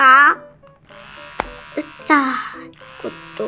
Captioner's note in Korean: 위잉